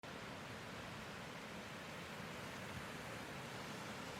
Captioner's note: waves crashing